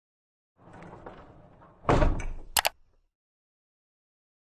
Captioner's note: computer clicks